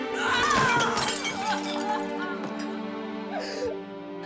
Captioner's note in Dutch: snikkend